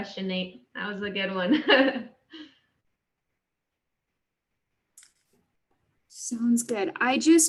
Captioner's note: laughter